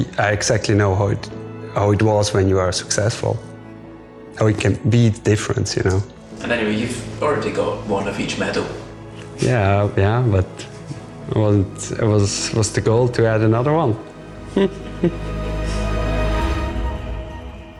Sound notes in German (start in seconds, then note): 14.4 lacht